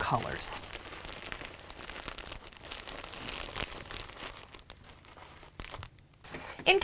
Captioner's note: crinkle of plastic